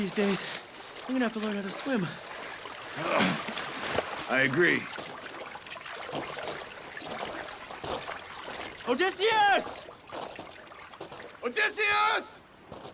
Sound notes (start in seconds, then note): 2.9 grunts